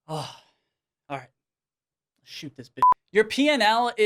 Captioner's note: beep